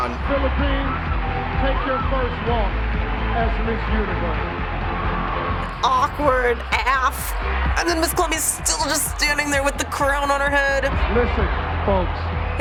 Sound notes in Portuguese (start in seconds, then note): 4.4 aplausos da audiência; 5.7 música triunfante